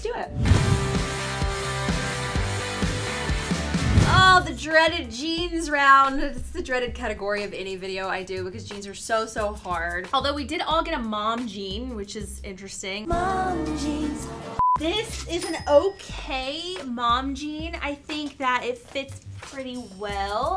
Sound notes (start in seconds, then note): 0.4 upbeat teenage rock music; 14.5 beep